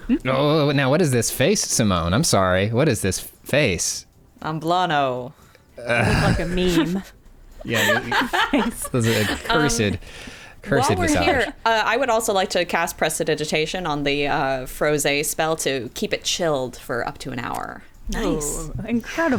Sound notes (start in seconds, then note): 7.6 laughing